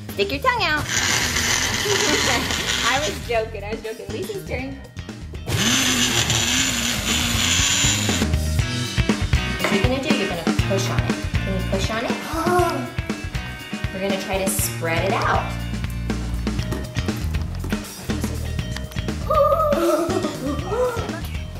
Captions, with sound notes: Stick your tongue out! I was joking, I was joking. Elise's turn. (blender whirs) What you gonna do, you're gonna push on it. Can you push on it? We're gonna try to spread it out. (laughs)